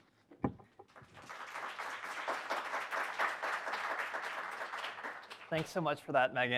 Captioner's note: applause